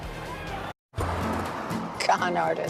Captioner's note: traffic sounds